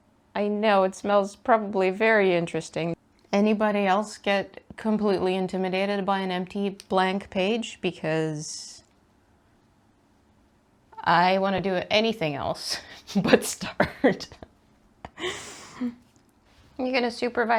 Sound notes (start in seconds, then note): 15.1 laughs